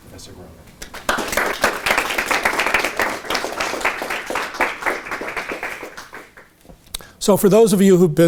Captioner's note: audience applauding